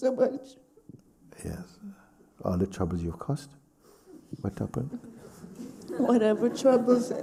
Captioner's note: laughter